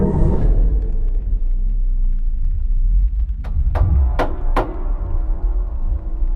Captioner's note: suspenseful music; static crackling